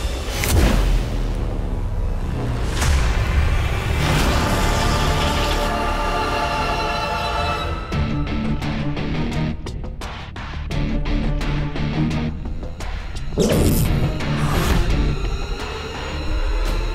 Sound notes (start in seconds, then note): 0.2 tense music plays; 3.9 whirring sound; 7.8 suspenseful music plays; 13.3 suspenseful music plays